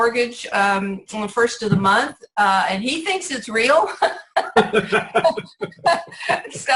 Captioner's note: laughs